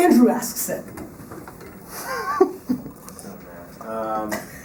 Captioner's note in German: Lacht